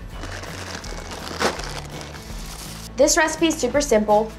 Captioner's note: plastic bag crinkles